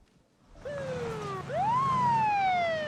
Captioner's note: sirens wailing